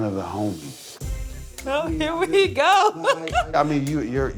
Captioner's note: laughs